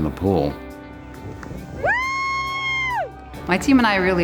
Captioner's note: cheering